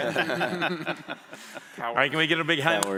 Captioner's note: laughter